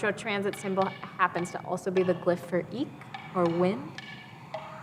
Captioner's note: speaking in foreign language